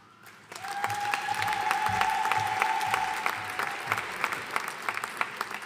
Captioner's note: audience cheering and applauding